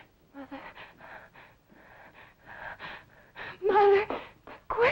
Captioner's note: gasping